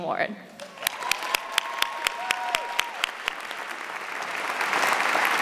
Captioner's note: audience cheers and applauds